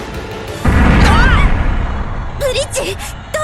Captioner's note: panicked cry